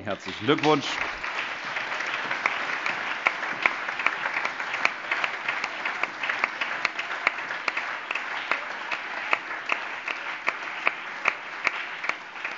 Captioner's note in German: Allgemeiner Beifall